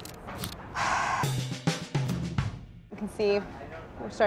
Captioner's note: sighs; rhythmic music